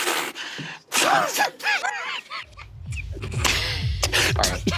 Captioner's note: Murph laughing